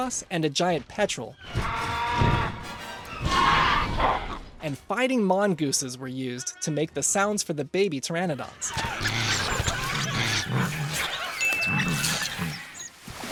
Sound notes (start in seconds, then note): 3.0 pteranadon squawking; 8.7 snorting and growling noises